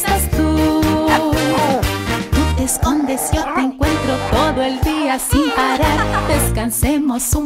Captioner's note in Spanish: Ladridos